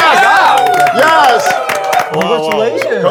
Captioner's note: everyone congratulating